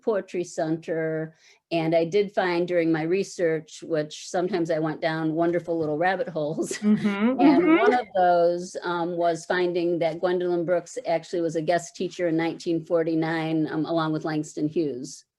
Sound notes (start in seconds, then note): 6.6 chuckles